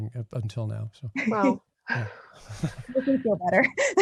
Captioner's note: laughing; laughs